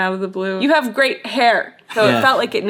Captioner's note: chuckling